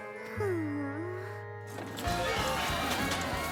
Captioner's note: sighs